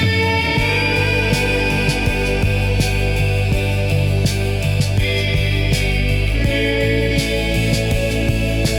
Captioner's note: RECORDING, fuzzy